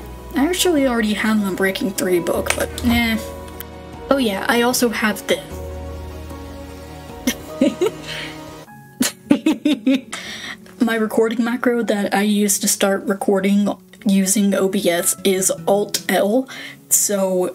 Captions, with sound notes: I actually already have an Unbreaking 3 book, but eh. Oh yeah, I also have thi- [snickering] [giggling] My recording macro that I use to start recording using OBS is Alt + L, so